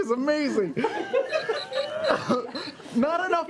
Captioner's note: squealing